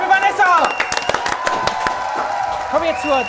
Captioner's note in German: Jubel, Applaus